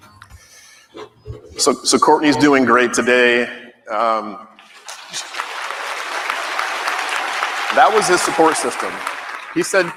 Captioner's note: applause